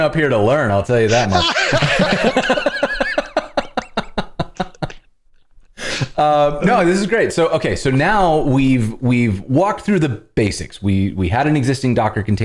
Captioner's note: laughter